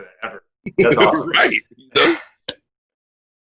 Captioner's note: laughing